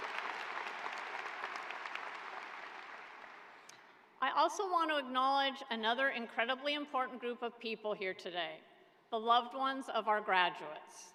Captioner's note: applause